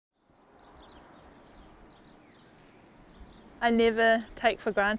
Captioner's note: birds chirping